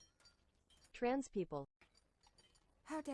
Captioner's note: TTS voice